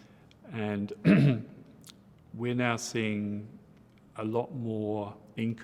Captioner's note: clears throat